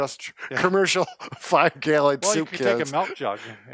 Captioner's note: laughing